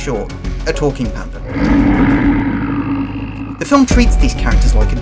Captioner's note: roaring